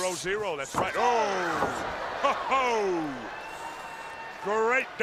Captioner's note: crowd cheering